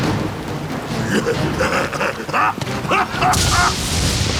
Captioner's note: laughs